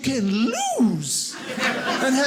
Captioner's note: audience laughing